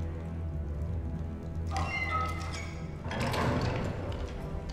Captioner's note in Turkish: Kapı Kapanma Sesi